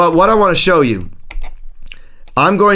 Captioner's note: mouse clicking